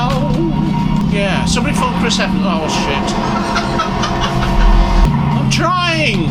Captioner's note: laugh in the background